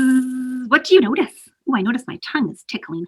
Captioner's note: inhale and buzzing